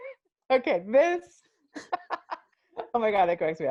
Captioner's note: laughs